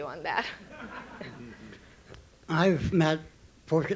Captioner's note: audience laughing